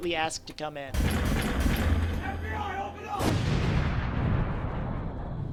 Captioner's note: knock Knock